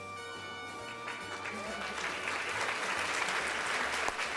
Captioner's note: applause